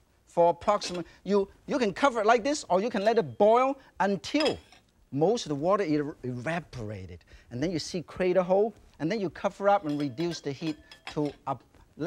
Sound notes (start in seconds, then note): 0.7 lid clinks; 2.8 lid clinks; 4.3 lid clinks softly; 9.6 lid clinking